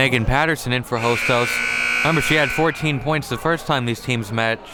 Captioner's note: buzzer blares